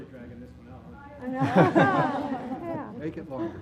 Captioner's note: laugh